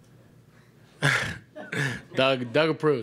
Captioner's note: laughs